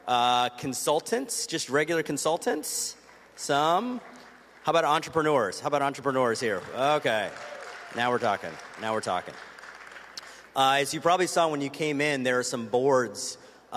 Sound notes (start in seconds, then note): 3.0 applause; 6.7 cheers and applause